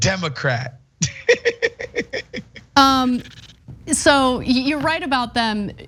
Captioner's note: laugh